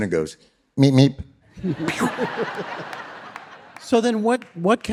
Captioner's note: audience laughing